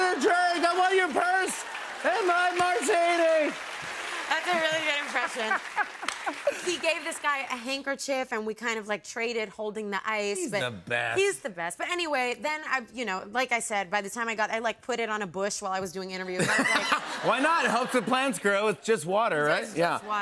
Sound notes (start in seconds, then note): 9.9 normal voice; 16.3 laughter